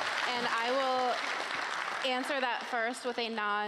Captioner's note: cheering and applause